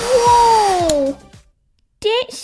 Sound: click!

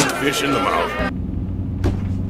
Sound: car engine revving

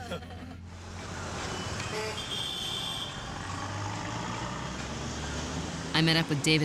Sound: laughter; horns honking

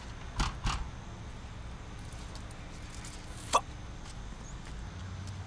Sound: door pounding

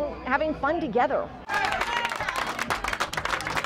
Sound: Geocoin Poker cheering

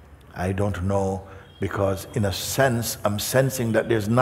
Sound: none

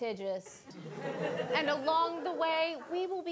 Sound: audience laughing

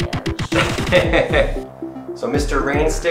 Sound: laughs

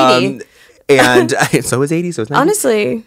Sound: both laugh

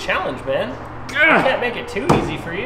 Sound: grunts

